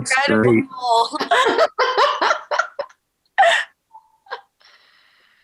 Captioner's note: laughing